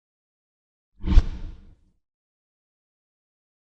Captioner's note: whooshing